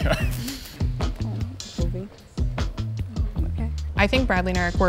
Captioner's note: couples chattering